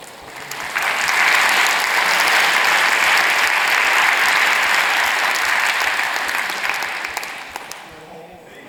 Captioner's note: applause